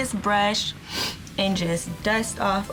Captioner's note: sniffs